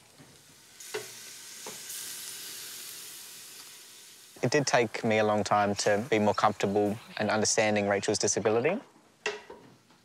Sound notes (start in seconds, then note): 0.6 sizzling